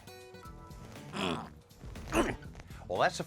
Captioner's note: grunts